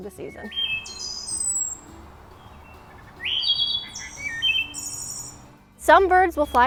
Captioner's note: thrush calls play on speaker